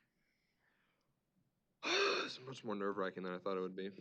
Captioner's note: exhales